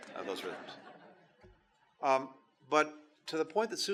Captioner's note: laughter